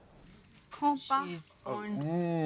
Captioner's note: talking in background